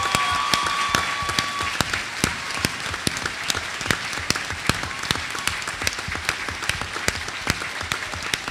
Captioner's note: applause